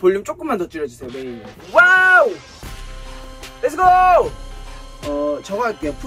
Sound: more screams as the recording session becomes longer

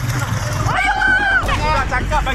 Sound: screaming

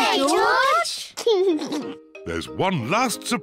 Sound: laughs

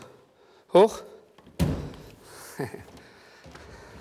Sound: satisfied laughter

